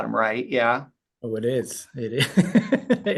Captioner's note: laughs